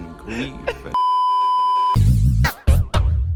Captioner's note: beeeeeeeeeeeep